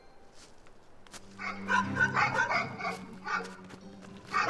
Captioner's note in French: aboiements au loin